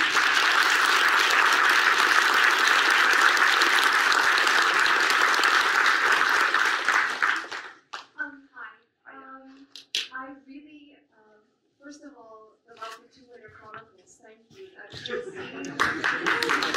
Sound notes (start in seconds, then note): 1.5 audience applauds